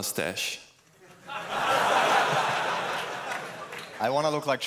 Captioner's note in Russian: смех